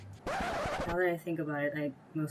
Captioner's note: record stop